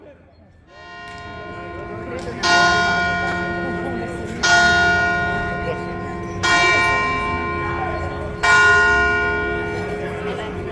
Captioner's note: cathedreal bells tolling 5 times